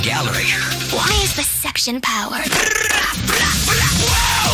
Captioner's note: Sentry fires